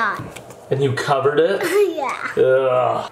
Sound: laughs

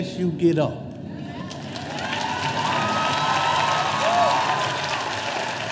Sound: audience applauding

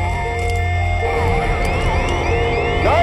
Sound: machine beeping

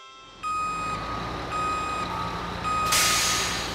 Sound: truck beeping

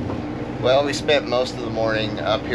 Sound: boat engine running

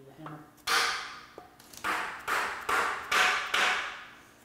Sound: metal banging

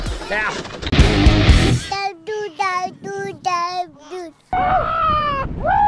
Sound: exciting music; baby babbles; men cheer

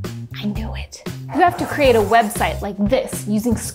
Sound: laptop swishing

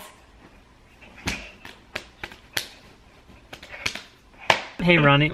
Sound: slapping

